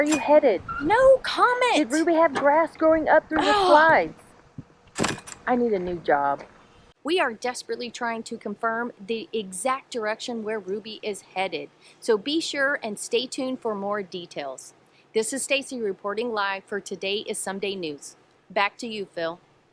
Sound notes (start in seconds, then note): 4.3 groaning